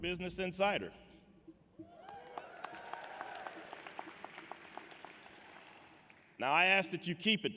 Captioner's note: applause